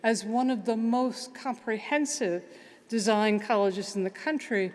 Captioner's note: none